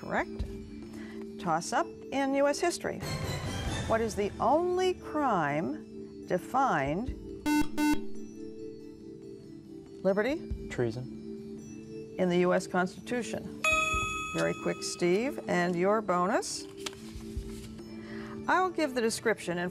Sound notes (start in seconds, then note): 7.4 buzzer